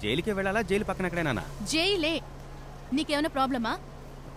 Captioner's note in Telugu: none